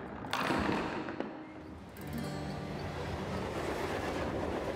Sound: ball hitting pins; train chugs

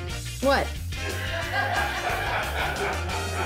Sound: laughing

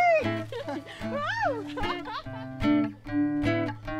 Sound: laughs; both laugh

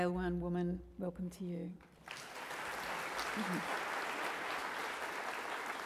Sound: audience applauds

